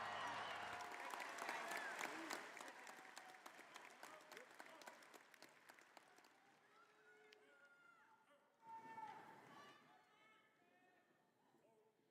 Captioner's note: applause